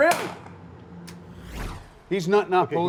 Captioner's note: gun bangs